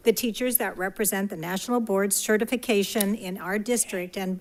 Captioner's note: none